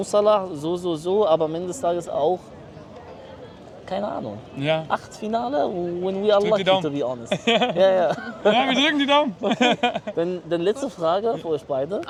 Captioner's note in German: gelächter